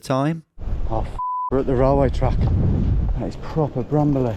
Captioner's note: beep